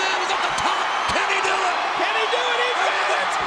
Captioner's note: crowd cheering